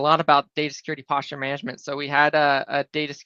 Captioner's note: none